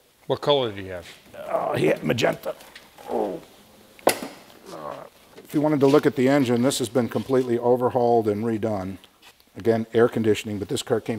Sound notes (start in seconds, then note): 4.5 grunting